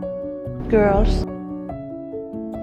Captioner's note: voiceover